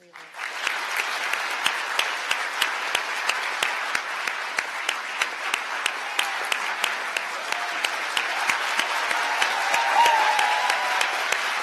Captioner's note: applause